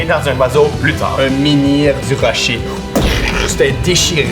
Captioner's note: vocalizes impact